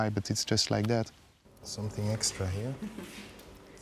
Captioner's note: chuckles